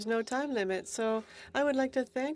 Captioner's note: speaking in French